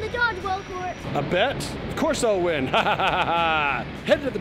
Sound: laughs

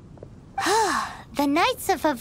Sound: sigh

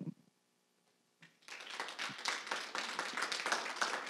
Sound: applause

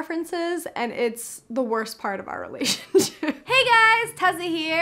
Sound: chuckles

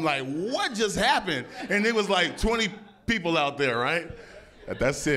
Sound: laughter

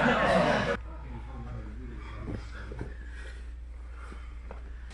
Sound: spectators laugh

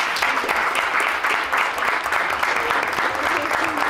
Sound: applause

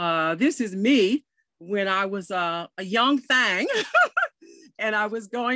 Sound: chuckles

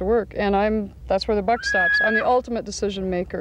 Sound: horse neighing

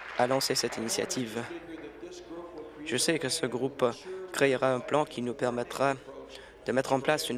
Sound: applause

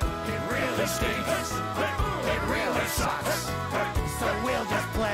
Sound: grunting rhythmically

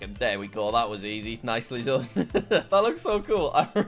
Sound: laughing

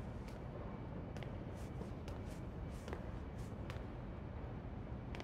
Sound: footsteps

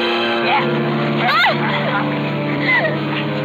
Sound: yelling and struggling

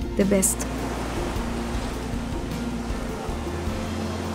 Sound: waves crashing

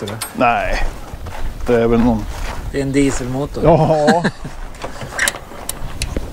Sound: laughter

